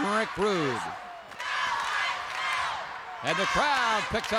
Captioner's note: crowd chants "Go, Ice, go"